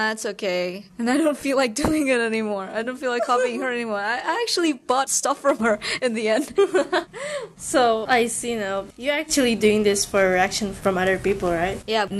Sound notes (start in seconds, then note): 7.0 laughs; 7.1 le gasp